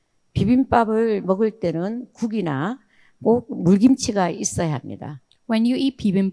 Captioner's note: speaking in foreign language